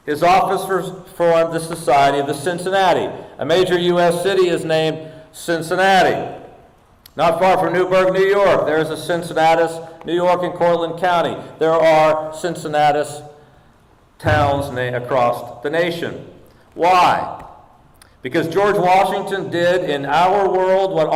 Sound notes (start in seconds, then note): none